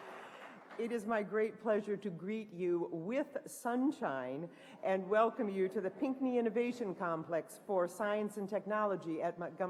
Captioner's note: applause